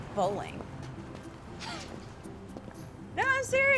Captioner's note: chuckling